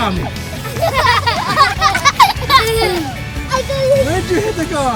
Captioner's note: children laughing